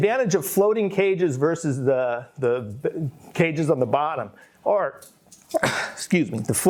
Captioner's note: coughs